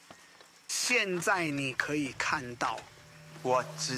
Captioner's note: footsteps crunching; footsteps crunching